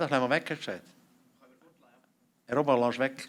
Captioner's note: non-english speech